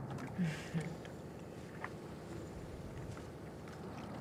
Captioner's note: Cecile chuckles